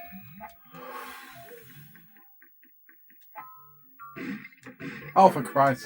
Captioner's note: sighs